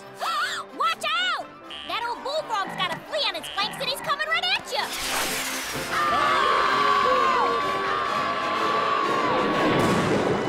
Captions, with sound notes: Watch out! That o’l bullfrog’s got a flea on it’s flanks and he’s coming right at ya! [screaming]